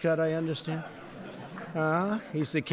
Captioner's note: laughter